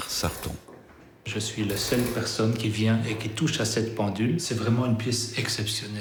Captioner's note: speaking in foreign language